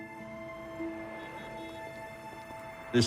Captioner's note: car horn honks